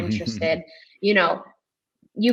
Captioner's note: chuckles